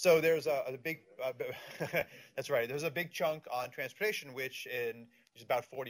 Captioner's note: laughs